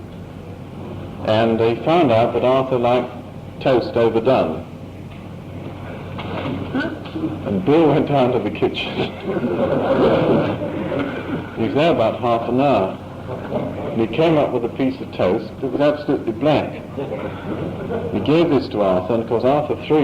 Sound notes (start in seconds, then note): 9.1 laughter